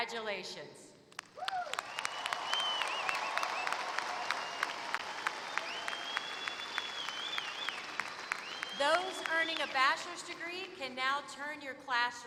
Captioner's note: applause